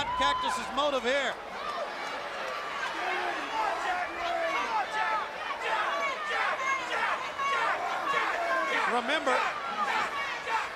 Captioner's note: crowd cheering